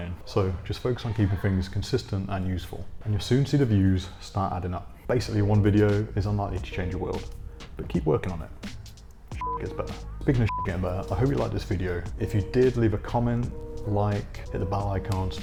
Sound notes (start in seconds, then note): 9.4 beep